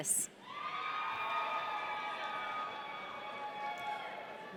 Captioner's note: audience cheering